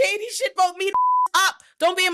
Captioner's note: beep